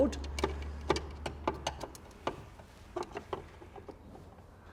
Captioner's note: screwdriver jostling